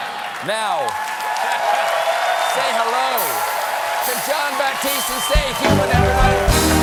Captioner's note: laughter